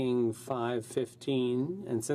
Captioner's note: speaking French